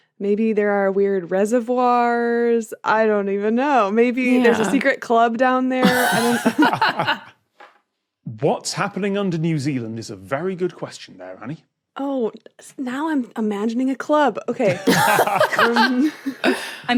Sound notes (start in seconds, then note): 5.8 group laughing; 14.6 group laughing